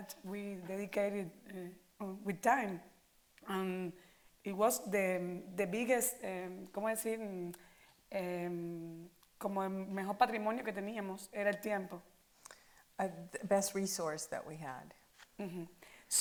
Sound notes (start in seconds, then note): 8.1 in Spanish